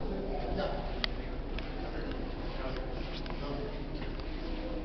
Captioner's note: indistinct conversation